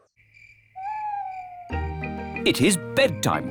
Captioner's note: crickets chirping